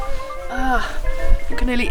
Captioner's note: general whining